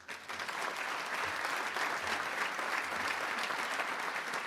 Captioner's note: crowd applauding